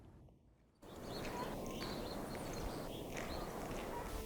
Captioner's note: birds chirping